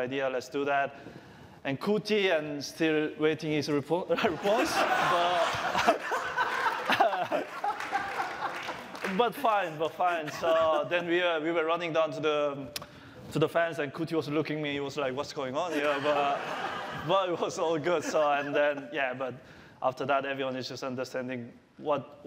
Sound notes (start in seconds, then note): 4.1 laughter